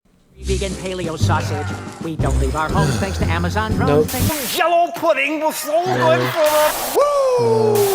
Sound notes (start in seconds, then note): 2.7 sigh